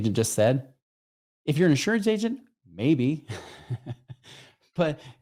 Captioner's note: chuckles